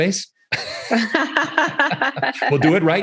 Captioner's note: both laughing